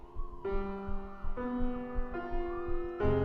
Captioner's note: sirens